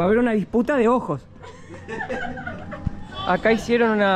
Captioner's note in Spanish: Risas